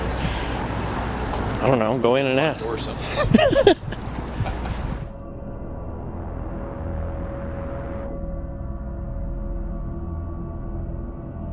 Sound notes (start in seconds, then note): 5.7 laughs; 8.3 suspenseful music